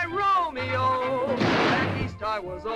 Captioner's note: gunshot